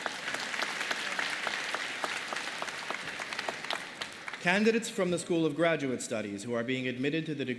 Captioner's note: applause